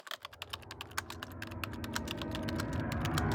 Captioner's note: typing